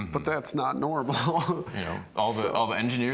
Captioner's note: laughs